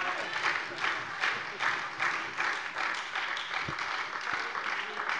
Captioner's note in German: Lebhafter Beifall bei der SPD